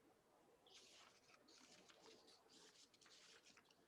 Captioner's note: paper rustling